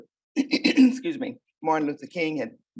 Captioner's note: clears throat